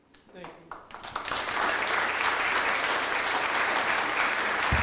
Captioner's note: audience applauds